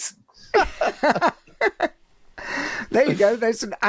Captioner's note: laughing